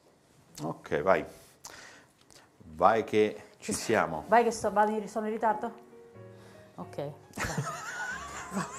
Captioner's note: Risate